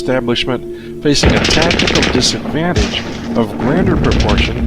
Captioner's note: guns fire